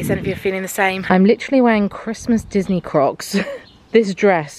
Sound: laughs

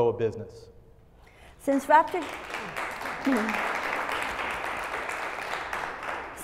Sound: applause

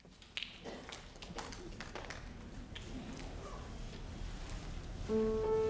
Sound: scattered audience applauding

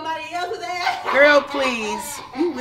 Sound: female laughs

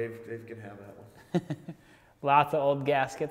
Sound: laughing

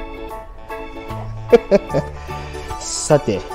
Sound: laughs

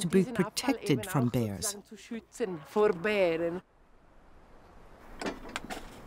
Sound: speaking in foreign language

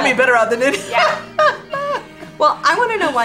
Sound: both laughing

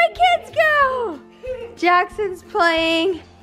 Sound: laughing

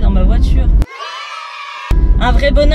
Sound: yeaaahhh!

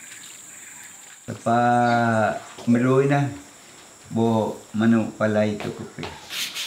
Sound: sandpaper

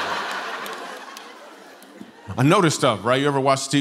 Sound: laughter

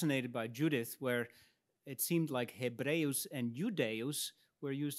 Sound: speaks in Latin

